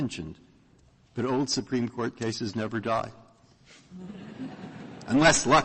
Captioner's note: laughter